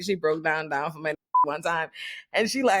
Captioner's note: beep